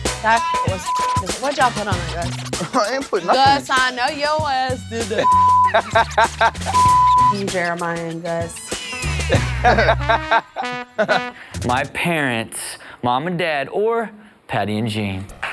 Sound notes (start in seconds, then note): 0.3 beep; 5.0 laughing; 6.6 beep